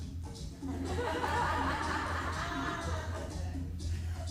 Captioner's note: audience laughs; rhythmic drumming music continues